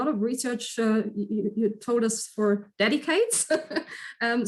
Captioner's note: chuckles